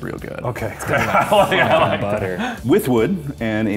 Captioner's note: laughing